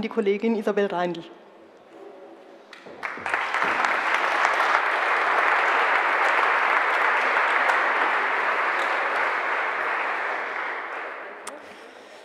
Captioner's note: general applause